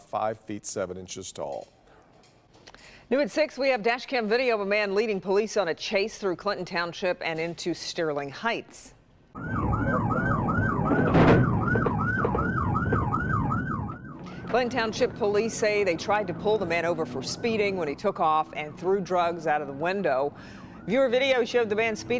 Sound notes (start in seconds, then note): 17.7 siren